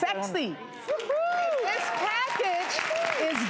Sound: applause

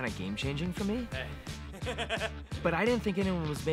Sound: laughs

